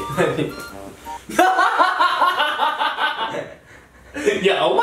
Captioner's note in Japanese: 爆笑